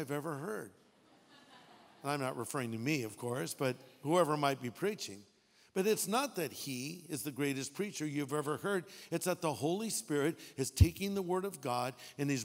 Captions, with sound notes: I've ever heard. (audience laughing) I'm not referring to me of course. But who ever might be preaching. But it's not that he is the greatest preacher you've ever heard, it's that the Holy Spirit is taking the word of God